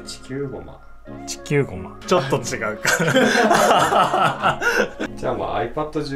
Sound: laugh

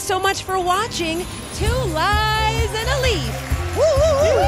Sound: crows claps and cheers

